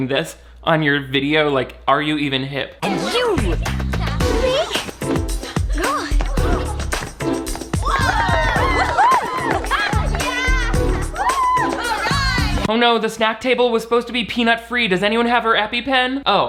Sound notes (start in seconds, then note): 6.4 upbeat music; 7.7 guests cheer